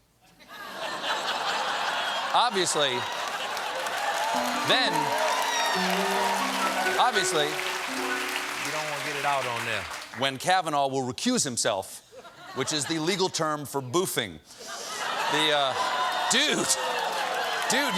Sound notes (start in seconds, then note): 0.2 laughter; 1.4 applause